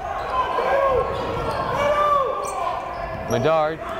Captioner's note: yelling